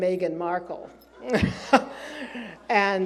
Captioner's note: laughs